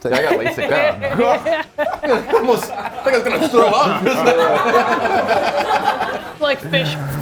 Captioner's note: laugh